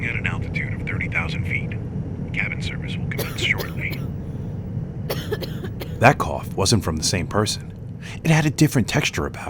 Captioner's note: someone coughs